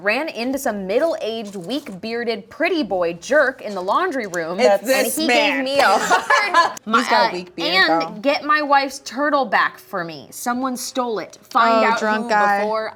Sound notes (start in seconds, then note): 5.8 woman in brown sweater laughing